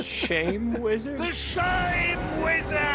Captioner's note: laughs